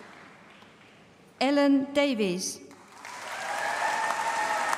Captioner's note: applause